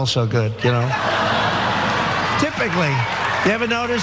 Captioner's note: laugh